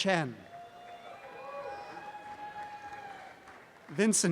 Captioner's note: audience cheering